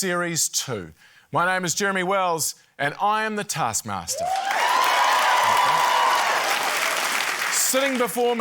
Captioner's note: cheering, applause